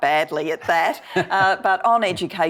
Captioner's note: laughing